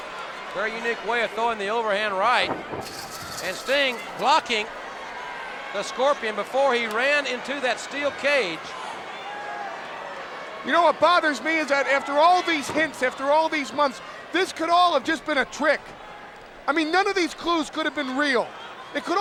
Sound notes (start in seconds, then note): 2.4 fence rustling